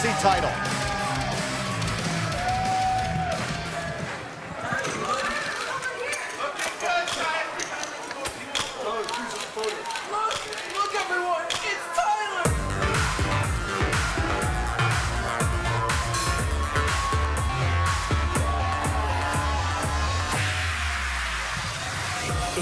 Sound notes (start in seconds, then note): 4.1 cheers & applause